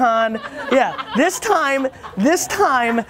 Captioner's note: laughter